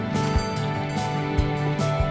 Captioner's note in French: cloches qui sonnent